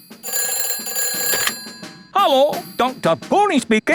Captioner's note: ringing